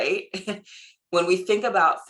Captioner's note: laughing